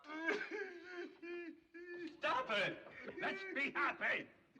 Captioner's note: sobbing Continues